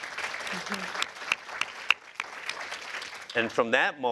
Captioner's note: applause